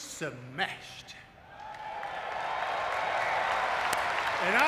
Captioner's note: audience cheering